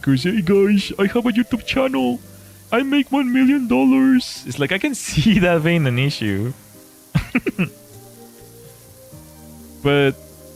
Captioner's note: laughter